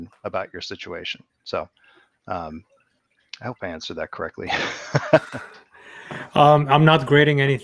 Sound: laughs

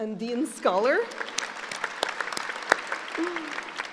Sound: applauding

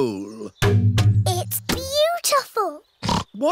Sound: oinks

